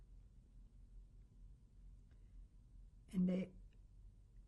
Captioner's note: pauses for 3 seconds